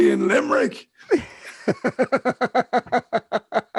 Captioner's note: laughs